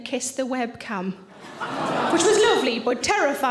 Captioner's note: audience laughing